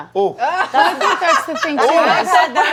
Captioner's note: laughter